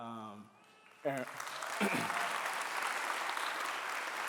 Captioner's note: clapping